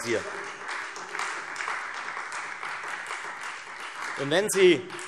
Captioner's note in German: Beifall Freie Demokraten und vereinzelt AfD